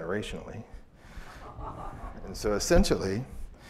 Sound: laughter

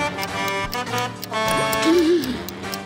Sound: gasping

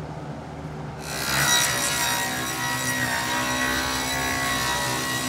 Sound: saw buzzing

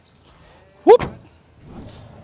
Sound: trunk thuds

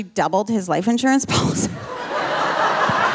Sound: audience laughing; laughing

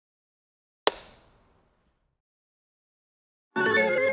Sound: clacking

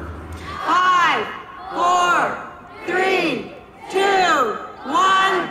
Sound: crowd

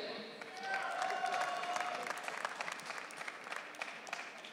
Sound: audience cheering

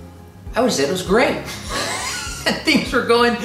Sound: laughs lightly

